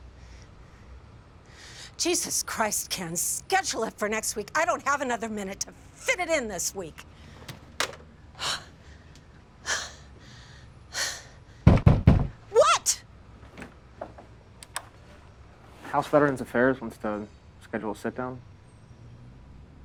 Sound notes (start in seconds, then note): 7.4 phone slams down; 8.3 Kate sighing; 11.7 pounding on door